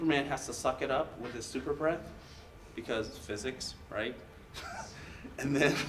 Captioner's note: laughs